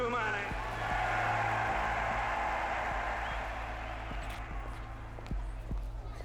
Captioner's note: cheering